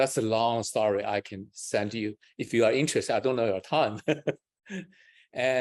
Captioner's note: laughs